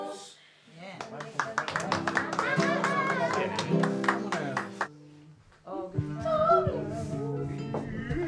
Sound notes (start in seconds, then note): 1.0 applause